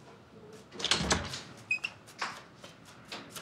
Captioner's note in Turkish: Kapı açıldı